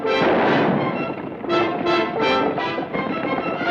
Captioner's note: gun fires